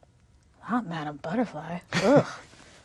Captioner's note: laughs